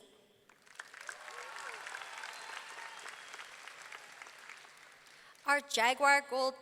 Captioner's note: audience clapping; audience cheering